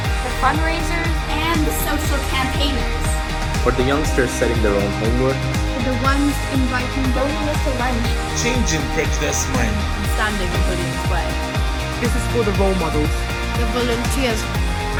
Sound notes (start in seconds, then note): 7.4 mutters; 11.5 mutters